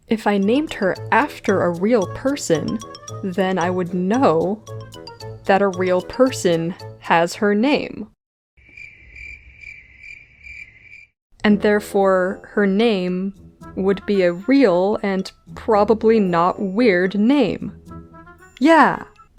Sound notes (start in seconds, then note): 8.7 crickets